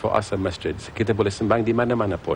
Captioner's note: non-english speech